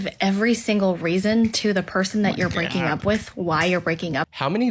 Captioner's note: dumping